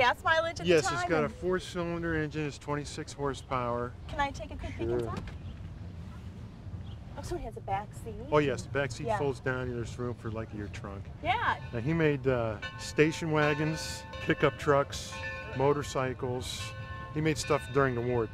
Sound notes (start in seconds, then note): 15.6 bell dinging